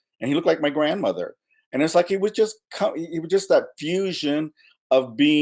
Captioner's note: none